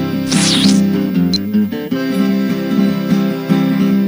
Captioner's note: portal squelches